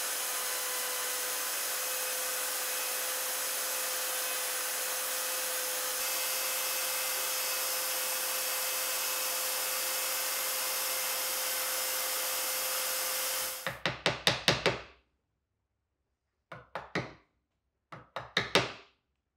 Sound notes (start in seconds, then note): 13.6 hammer taps